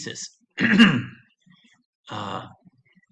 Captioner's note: clears throat